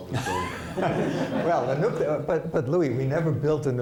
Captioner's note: laughter